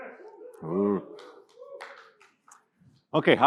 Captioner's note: audience whooping